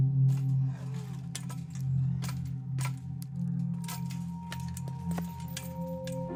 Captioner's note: metal fence clinking; metal fence crashes